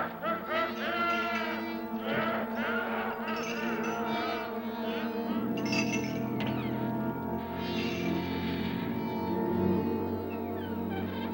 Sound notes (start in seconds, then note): 0.1 laughter; 5.6 chains rattling